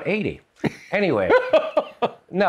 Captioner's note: laughter